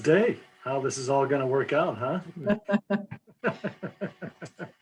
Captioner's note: laughs